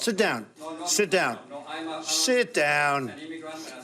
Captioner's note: man speaking off mic